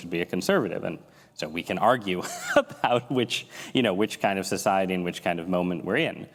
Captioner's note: laughs